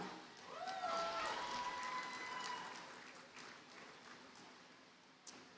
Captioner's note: audience cheers and applauds